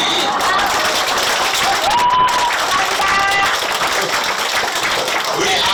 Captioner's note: Applause; 박수